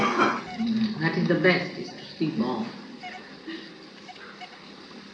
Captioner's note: more laughter and exchanges